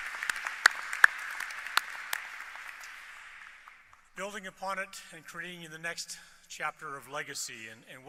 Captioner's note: applause